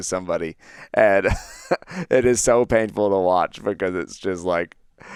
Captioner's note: laughs